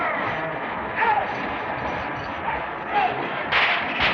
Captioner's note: shouting orders; whip lashing